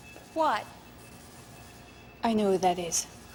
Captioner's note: beeps